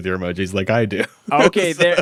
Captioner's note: laughs